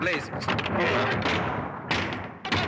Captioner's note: clanging